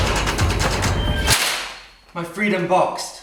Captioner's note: door clanging